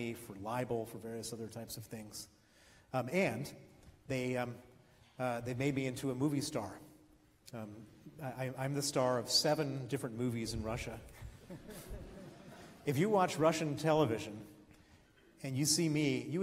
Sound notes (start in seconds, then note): 11.3 laughs